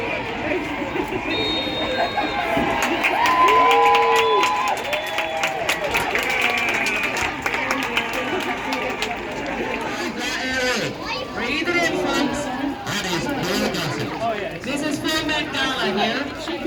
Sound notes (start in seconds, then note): 1.2 whistle blows; 2.8 crowd applause